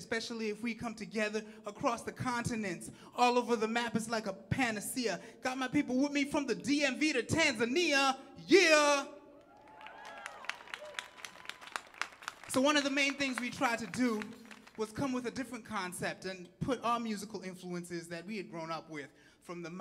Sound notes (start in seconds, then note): 9.4 audience clapping and cheering